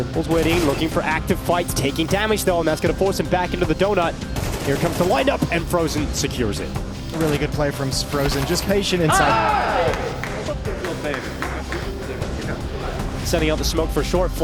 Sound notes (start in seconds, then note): 9.0 group cheering; 10.9 people chattering indistinctly